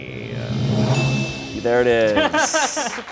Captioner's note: bell dings